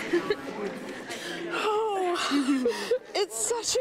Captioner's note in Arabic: ضحك